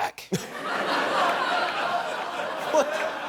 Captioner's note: laughing